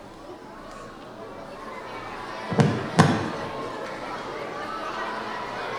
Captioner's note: audience chattering continues